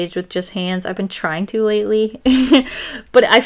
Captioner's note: laughs